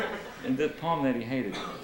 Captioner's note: laughter